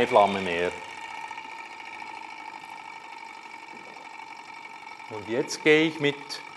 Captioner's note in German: leises Rattern des Stirlings ist zu hören